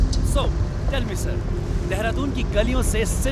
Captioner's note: Man 1 on radio